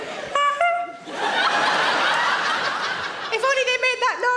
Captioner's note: honking sound